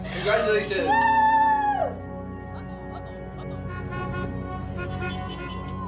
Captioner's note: car horns honking